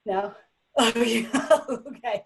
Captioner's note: laughs